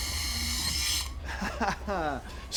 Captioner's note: laughs